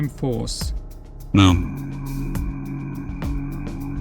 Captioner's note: guttural tone